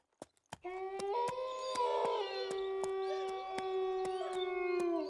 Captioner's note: wolves howl and whimper